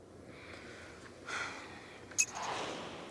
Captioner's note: exhaling